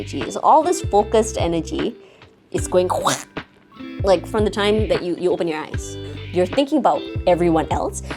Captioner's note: splat